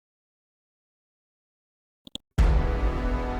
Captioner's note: mouse clicks; dramatic chord